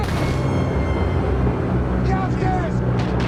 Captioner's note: dramatic music; water splashing